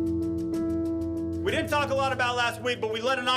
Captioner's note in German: englisch